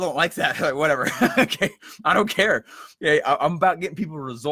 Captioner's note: laughs